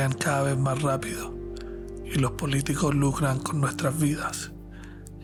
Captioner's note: narrator speaking Spanish